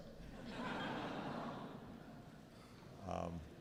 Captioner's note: audience laughs